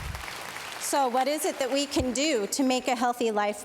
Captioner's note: applause